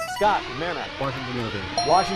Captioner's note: siren; ding